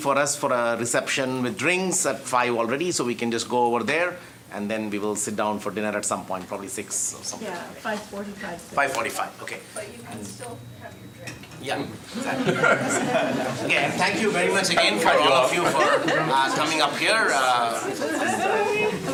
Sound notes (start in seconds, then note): 12.1 audience laughing; 17.4 background audience chatter